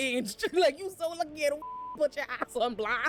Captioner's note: beep